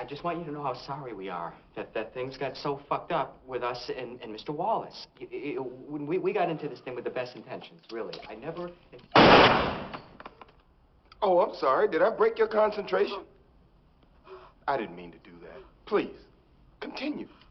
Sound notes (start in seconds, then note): 14.2 gasping